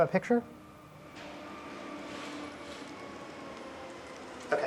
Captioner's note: mechanical whirring